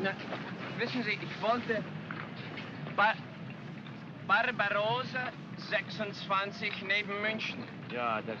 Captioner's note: brakes squeal; speaking in broken German; speaking in German